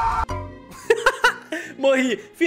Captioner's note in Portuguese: risos